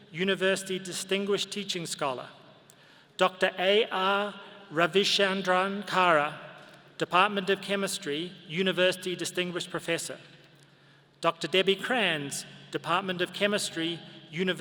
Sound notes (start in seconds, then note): none